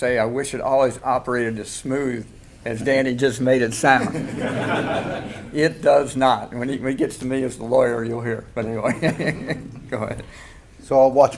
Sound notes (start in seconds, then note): 4.0 audience laughing